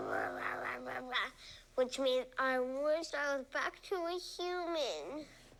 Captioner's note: growling